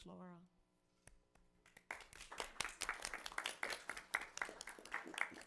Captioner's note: everyone applauding